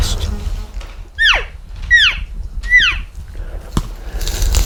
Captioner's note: cow mew